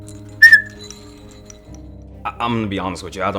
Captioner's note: toy whistles